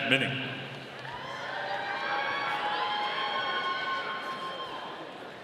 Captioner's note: audience cheering